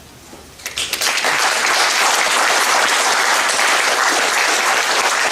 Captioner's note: audience applauding